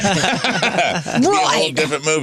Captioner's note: laughing